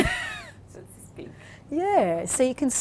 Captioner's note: laughs